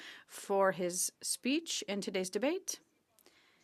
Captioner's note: speaking French